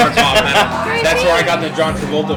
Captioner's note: laughs